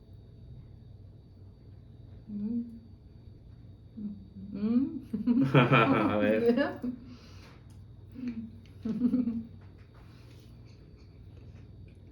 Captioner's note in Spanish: risas jajaja